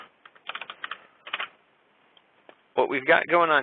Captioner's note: keyboard clicking